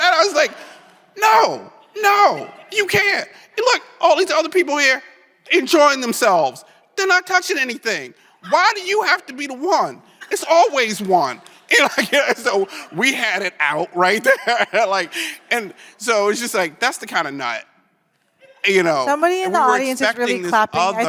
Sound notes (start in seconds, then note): 0.0 laughs; 11.4 chuckles; 14.6 laughs